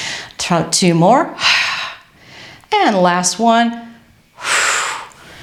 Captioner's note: exhales